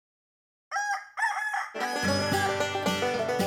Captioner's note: rooster crows; banjo plays